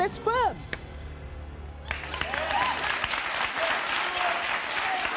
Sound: audience applause

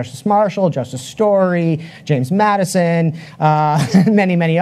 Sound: chuckles

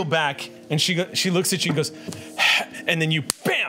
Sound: exhales

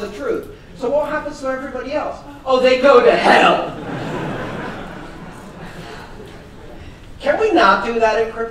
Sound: laughter

